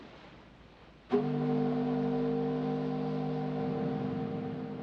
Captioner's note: ship's horn blares